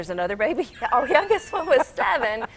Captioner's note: laughing